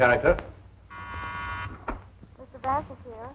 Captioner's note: buzzing